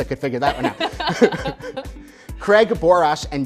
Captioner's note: both laughing